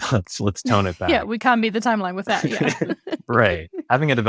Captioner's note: laughs